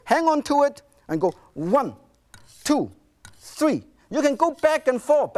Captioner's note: knife screeching